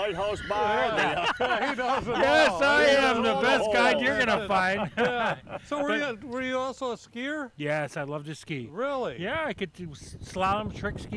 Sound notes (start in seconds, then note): 0.0 laughter; 3.7 all laughing